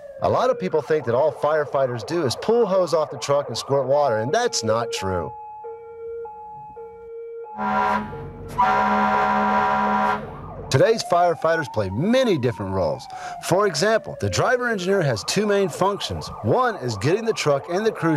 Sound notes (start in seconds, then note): 5.3 siren wailing; 7.5 horn honking